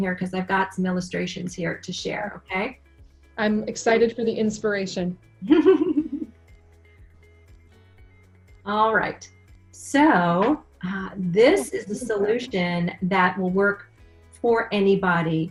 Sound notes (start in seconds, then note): 5.4 laughs